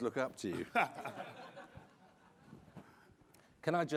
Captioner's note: all chuckling